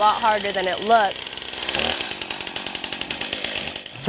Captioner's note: chainsaw noise